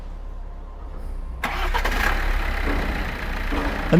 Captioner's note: motor roaring